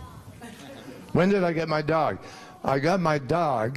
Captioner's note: laughter